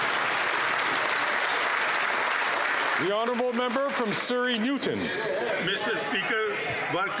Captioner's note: some Applause